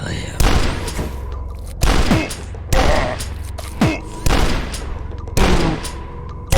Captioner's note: gun blasting; monsters grunting